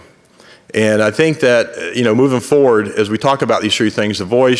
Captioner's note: none